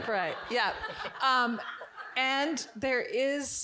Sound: audience giggling

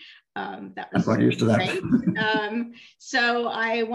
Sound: laughter

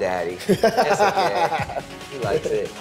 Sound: laughs

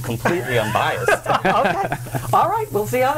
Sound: laughter

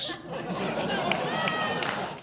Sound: audience laughs

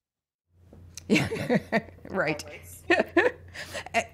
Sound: laughter

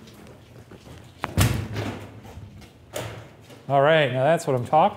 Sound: thudding

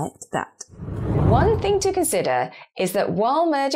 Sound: air whooshing

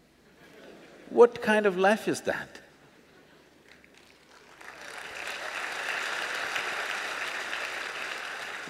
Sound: applause

